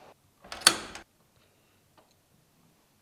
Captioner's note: lock clicks